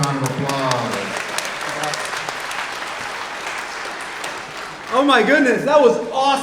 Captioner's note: everyone applauding